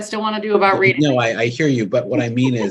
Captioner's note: chuckling